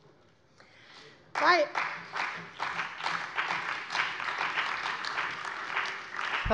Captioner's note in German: Beifall bei der CDU und dem BÜNDNIS 90/DIE GRÜNEN